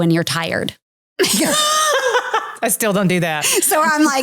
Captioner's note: laughing